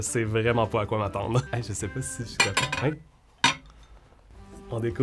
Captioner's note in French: claquements de vaisselle